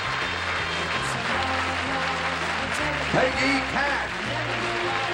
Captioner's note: applause